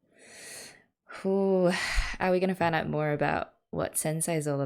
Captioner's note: exhales